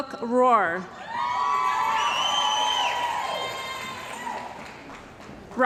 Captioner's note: cheering & Applause